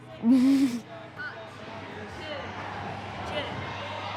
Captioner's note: chatter; giggles